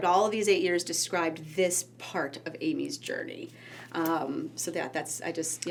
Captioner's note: none